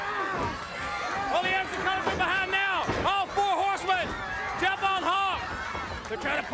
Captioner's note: crowd cheering